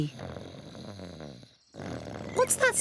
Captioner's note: snoring